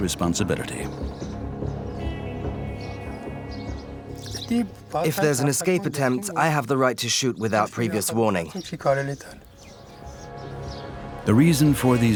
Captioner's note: voiceover